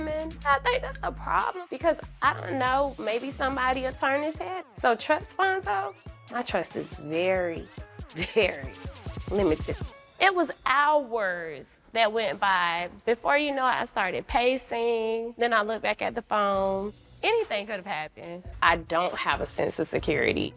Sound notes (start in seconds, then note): 7.6 scoffs